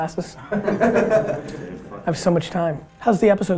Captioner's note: group laughter